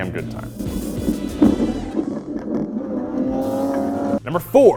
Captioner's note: engine revs